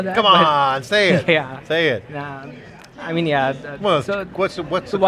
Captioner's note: laughs